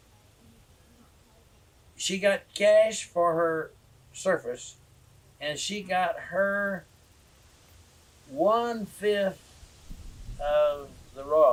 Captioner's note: laughs